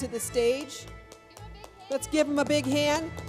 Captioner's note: clapping